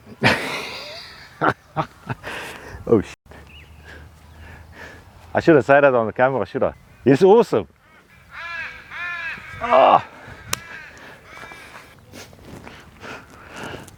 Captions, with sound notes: (laughs) Oh! I shouldn't say that on the camera, should I? It's awesome. (birds chirping)